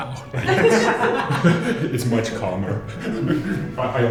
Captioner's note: laughter